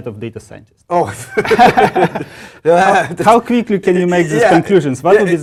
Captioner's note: laugh